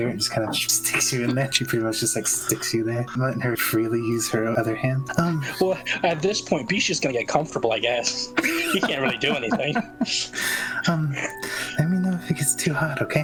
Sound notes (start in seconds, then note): 8.3 laughing